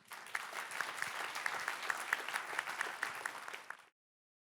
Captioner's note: audience applauding